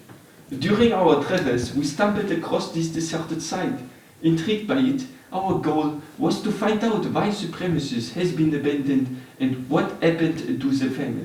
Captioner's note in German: schlechter französischer Akzent